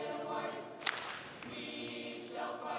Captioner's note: all clapping